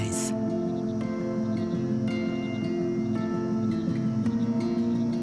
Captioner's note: crickets chirping